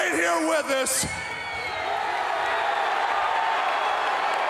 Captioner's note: crowd cheers